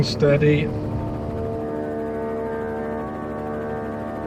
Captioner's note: helicopter buzzing